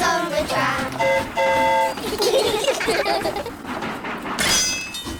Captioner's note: train horn toots; all giggle